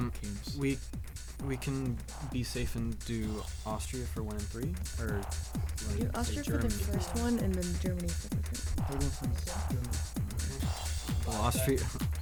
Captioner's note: whispering